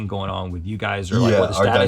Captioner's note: laughs